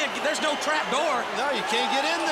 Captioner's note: crowd chatter